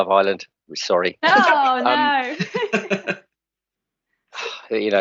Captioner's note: laughter